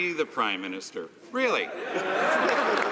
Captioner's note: some Applause